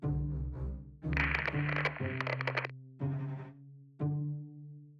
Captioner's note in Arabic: طقطقة تسجيل ثابت; تستمر الموسيقى الأوركسترالية المتأملة